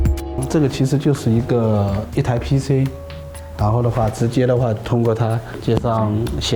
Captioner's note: speaker speaking in foreign language